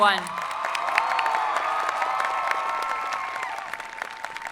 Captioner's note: people applauding